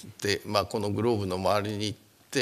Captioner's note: speaking japanese